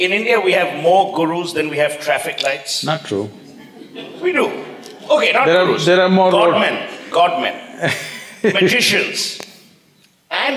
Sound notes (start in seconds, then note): 3.4 laughter; 7.7 Sadhguru laughs